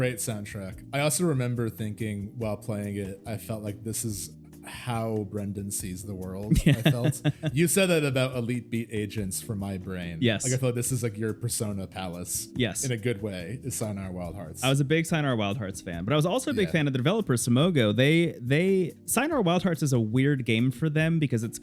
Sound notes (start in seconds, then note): 6.5 laughing